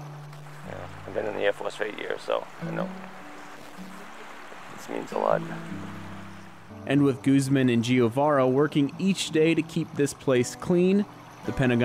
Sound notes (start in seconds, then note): 0.0 guitar playing; 0.0 water flowing; 3.3 water flowing